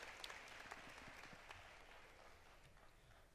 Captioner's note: applause